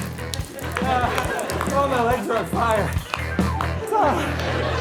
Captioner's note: Jason sighs; blows whistle; Jason exhales